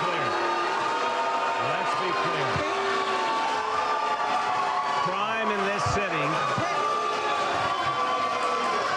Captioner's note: yelling